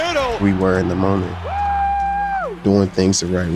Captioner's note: crowd cheering